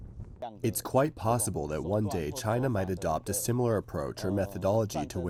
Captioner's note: through translator